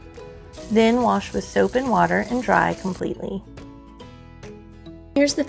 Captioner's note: running water